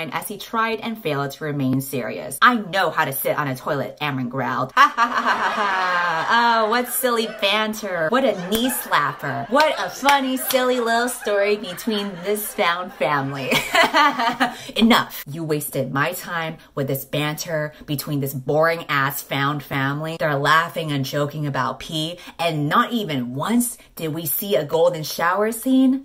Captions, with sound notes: "as he tried and failed to remain serious. "I know how to sit on a toilet, Amren growled." [fake laughter] What silly banter. What a knee slapper. What a funny, silly lil story between this found family [fake laughter] Enough. You wasted my time with this banter between this boring-ass found family They're laughing and joking about pee and not even once did we see a golden shower scene?